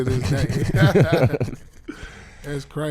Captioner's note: laughing